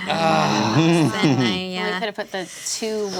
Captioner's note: groaning